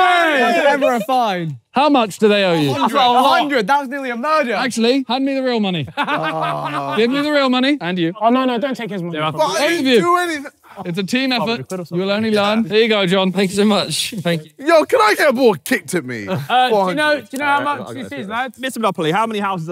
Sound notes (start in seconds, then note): 16.3 yelling